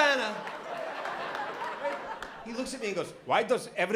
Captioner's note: laughter